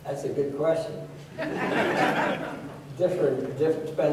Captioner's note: laughter